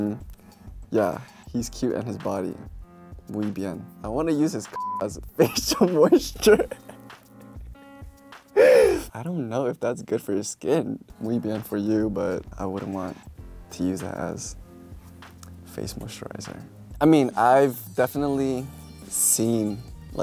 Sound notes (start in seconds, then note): 4.7 beep; 7.8 he laughs